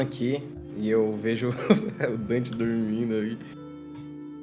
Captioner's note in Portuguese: risos